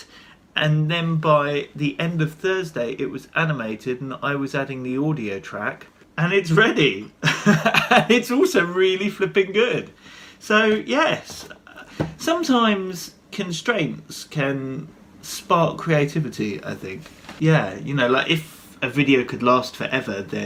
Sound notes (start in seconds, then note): 7.2 chuckles